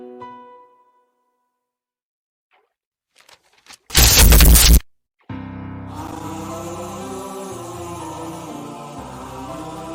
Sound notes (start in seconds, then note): 3.2 sound of hand smashing paper against piano